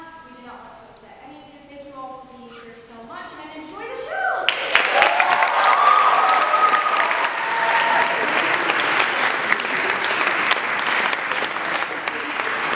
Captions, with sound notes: we do not want to upset any of you, thank you all for being here so much, and Enjoy the show! (Applause)